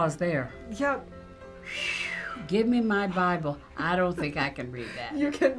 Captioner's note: whistles softly